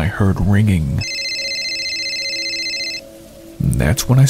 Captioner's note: cellphone ringing